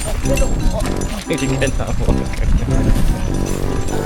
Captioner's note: laugh